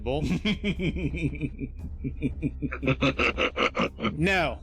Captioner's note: group laughter